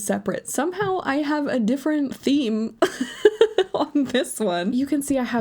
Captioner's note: laughs